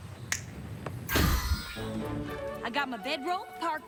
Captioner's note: snaps fingers